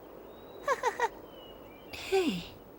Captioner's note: laughs